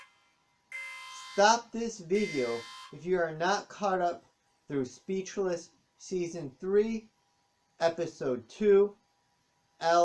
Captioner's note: alarm stops